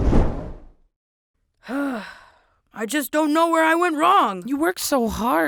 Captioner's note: sighs